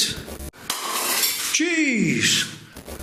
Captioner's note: glass breaking